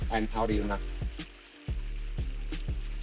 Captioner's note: splashing